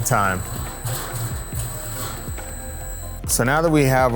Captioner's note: machine whirs